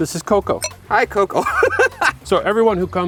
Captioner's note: laughs